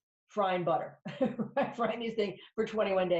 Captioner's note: laughs